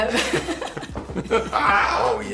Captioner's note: laughing